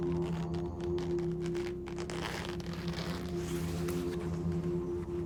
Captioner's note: zipper unzips